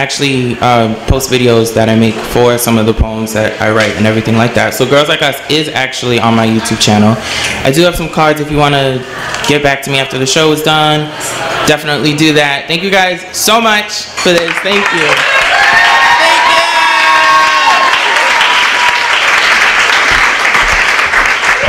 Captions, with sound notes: I actually post videos for some of the poems that I write. So "Girls Like Us" is actually on my YouTube channel. I do have some cards if you want to get back to me after the show is done. Thank you guys so much. [applause]